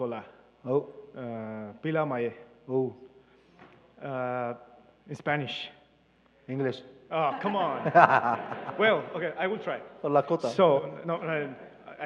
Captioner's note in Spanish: Participante habla en inglés; Traductora habla en inglés